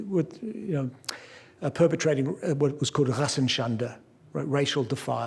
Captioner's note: non-english speech